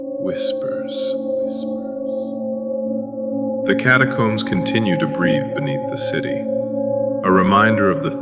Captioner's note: echoing whispering